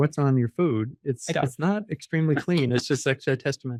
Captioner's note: laughs